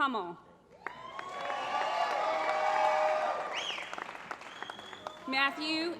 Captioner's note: applause